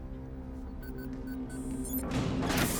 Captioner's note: keypad beeping; door clanks and hisses